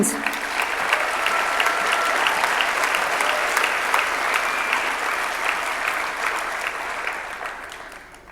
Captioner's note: audience clapping